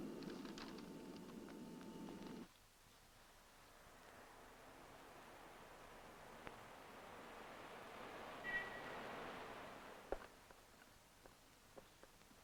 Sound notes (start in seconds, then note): 3.5 traffic humming; 8.4 horn honks